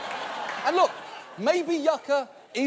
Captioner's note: audience laughs